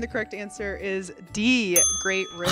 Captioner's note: bell dinging